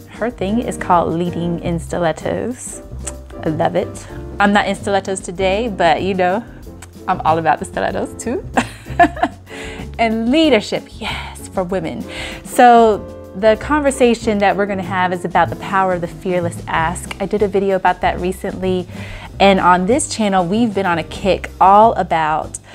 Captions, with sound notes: her thing is called "leading in stilettos." I love it. I'm not in stilettos today, but you know, I'm all about the stilettos, too. (laughs) And leadership, yes, for women. So the conversation that we're gonna have is about the power of the fearless ask. I did a video about that recently, and on this channel we've been on a kick all about